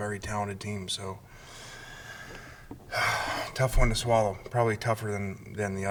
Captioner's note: sighing